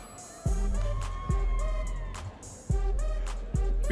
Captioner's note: audience members cheering